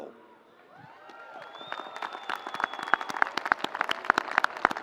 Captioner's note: audience applauds